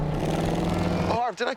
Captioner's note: engine revving